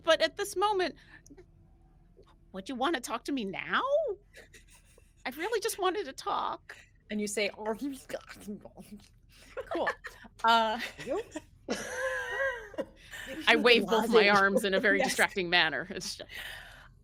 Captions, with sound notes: but at this moment, well do you wanna talk to me now? I really just wanted to talk. - And you say, cool. (people laughing) - I wave both my arms in a very distracting manner.